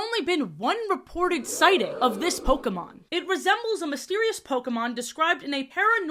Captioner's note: crowd "ooh" sfx